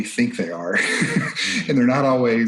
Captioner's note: chuckles